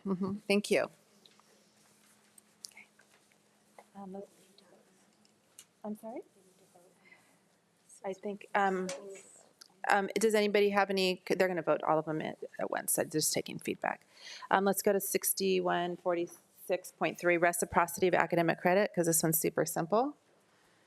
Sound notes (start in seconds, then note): 6.8 speaks faintly